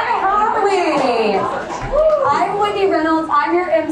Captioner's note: audience cheering